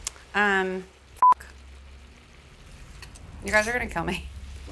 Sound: beeps

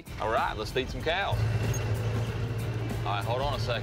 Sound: engine whirs

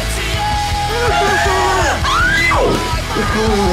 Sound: Lauren screams

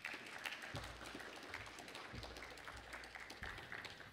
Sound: audience applauds

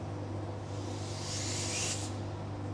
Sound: air squeaks

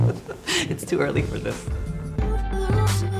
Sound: laid-back music; laughing

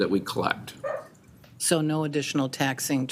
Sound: dog barking

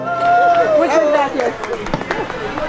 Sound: in Spanish

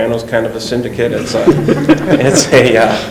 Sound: laughing

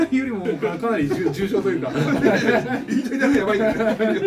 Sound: laugh

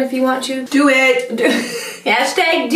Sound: laughs

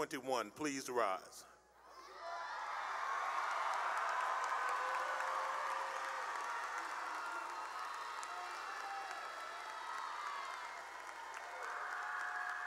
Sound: cheering and applause

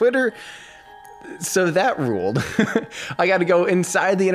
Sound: laughs

